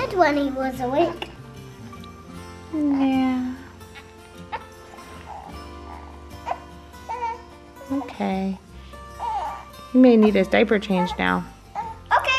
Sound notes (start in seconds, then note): 4.4 sighs; 5.0 baby cries softly